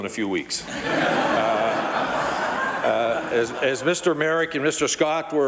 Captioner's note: laughter